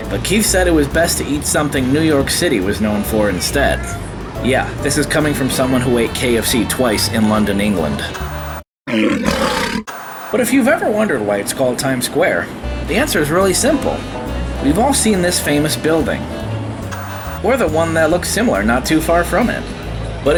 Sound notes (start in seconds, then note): 8.8 lion roaring; 9.4 white noise scratching; 16.9 white noise scratching